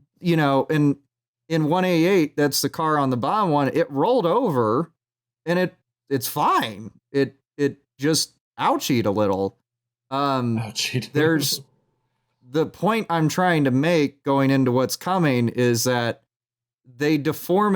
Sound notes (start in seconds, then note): 11.0 laughing